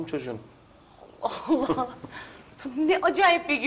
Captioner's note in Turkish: Gülme sesleri